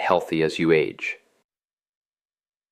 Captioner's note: pause